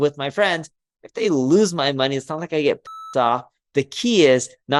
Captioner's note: beeps